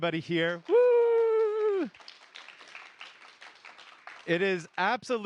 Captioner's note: applause